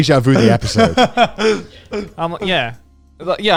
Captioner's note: laughing